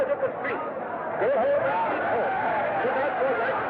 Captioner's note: crowd Shouting